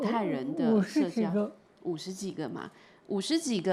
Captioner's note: Mandarin